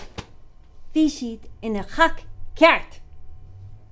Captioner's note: in irish